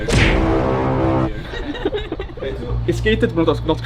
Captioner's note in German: Gelächter